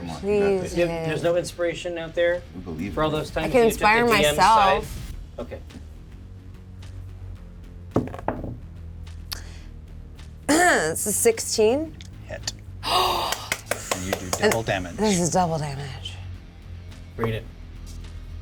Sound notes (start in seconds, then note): 8.0 die rolls; 10.5 clears her throat; 12.8 gasps